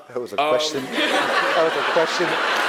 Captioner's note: laugh